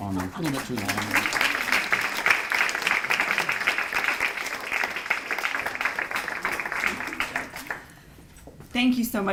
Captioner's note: applause